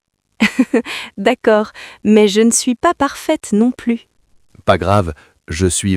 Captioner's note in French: rire